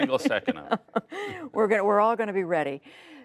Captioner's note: laughter